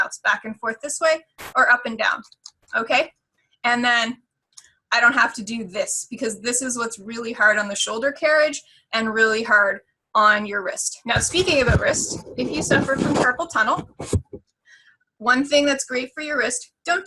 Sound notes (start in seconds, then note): none